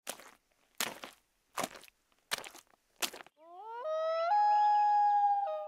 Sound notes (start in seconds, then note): 3.4 wolf howling